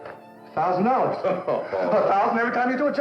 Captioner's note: chuckling